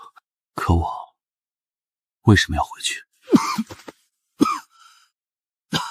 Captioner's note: cough cough cough